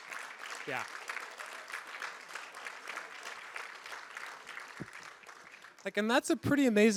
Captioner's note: applause